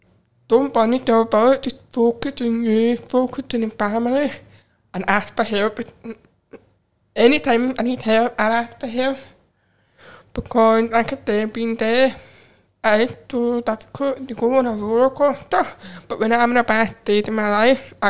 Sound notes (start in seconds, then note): none